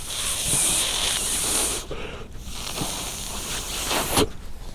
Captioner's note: breath